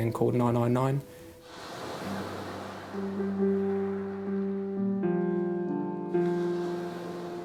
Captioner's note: water rushing; uplifting instrumental music; waves crashing; uplifting instrumental music